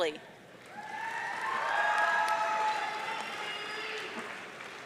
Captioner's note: audience cheering